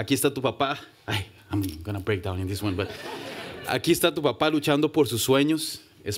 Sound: speaking spanish; speaking spanish

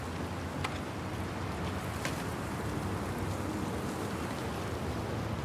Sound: wind sweeping leaves on ground

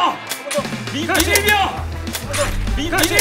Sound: click

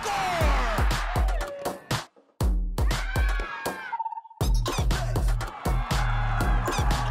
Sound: upbeat music; crowd cheering

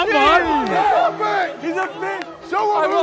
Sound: Sidemen cheering

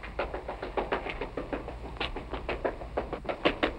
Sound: clapping

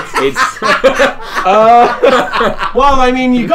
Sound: laughter

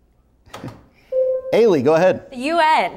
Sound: buzzer sounds

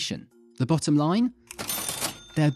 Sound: cash register

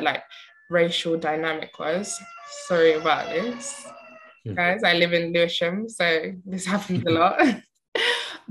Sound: sirens

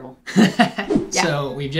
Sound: laughs

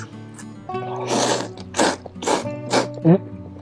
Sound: slurps

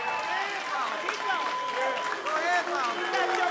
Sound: applause

